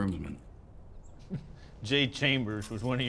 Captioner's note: laughs